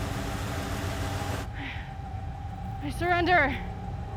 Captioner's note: suspenseful music; breathes heavily